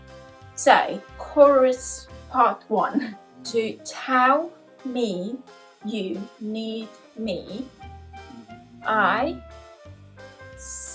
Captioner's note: laugh